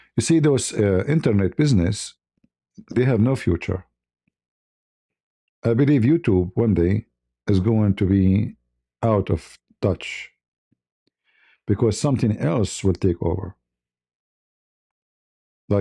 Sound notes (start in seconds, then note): none